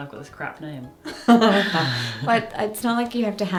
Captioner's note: chuckles